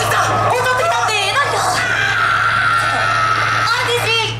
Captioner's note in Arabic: آآآآه!!!